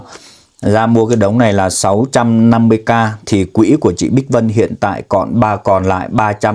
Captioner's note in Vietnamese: khịt mũi